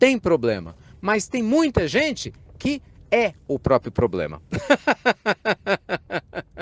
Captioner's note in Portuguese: risos